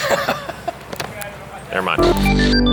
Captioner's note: laughter